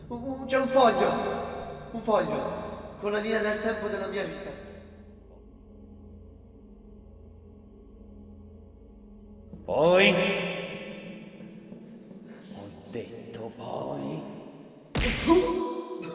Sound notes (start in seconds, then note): 14.9 punch!